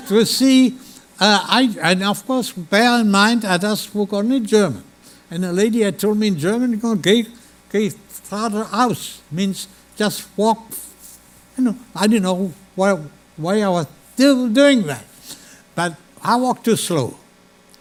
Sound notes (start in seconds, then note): 7.6 speaking German